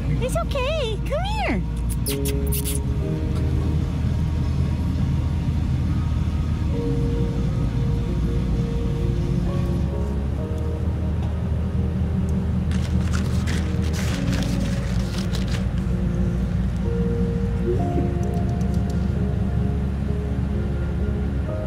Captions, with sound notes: It's okay. Come here. [Kissing sounds] Hi. [Tongue clicking sounds]